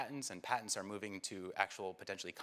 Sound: none

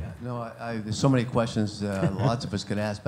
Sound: voiceover

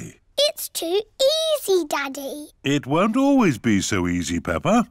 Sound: none

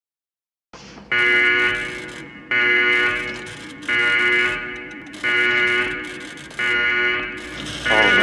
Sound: alarm Horn

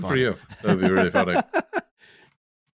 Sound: laughs

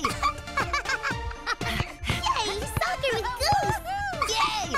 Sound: laughing; panting

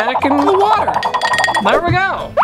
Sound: tinkling

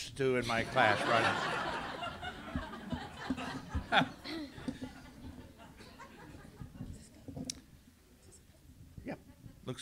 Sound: laughter

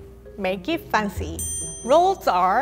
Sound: chime dings

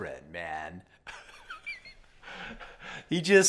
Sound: laughs

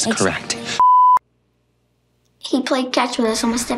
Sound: beep

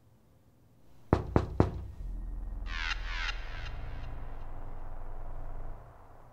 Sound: a knock, knock, knock at the door

